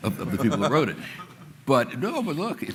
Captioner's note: laughter